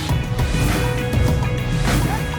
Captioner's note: air whooshing